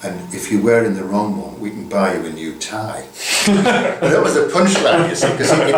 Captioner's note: laughter